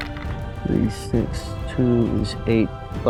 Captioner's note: dice rattling